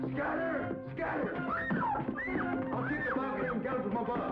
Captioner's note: woman screaming